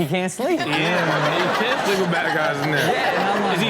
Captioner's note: audience and host laughs